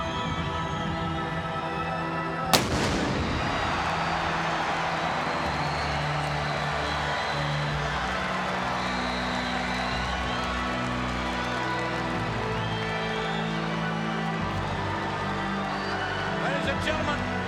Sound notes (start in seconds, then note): 2.5 exploding noise